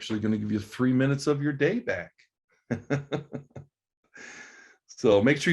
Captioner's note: laughs